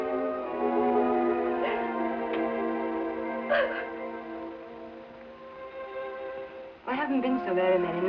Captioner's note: sobbing